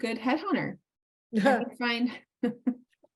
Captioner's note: laughs